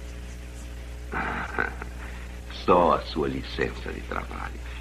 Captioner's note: chuckles